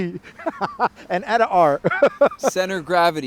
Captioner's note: laughs